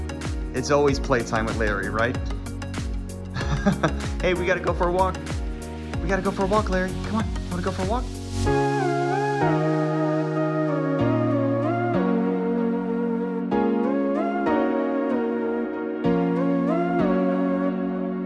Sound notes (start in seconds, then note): 3.3 chuckling; 9.0 upbeat music